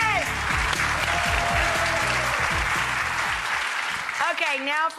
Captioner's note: audience cheers and applauds